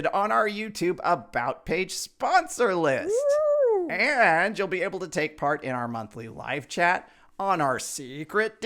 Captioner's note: Leia woos